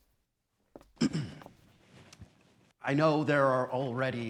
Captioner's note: clearing throat